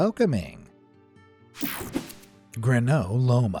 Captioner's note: cartoon swoosh